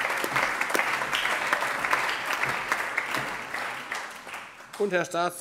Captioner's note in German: Allgemeiner Beifall